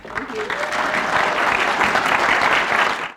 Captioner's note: applause